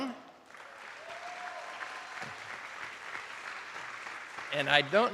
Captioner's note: attendees applauding